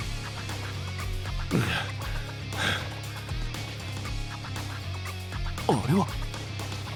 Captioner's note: pant, pant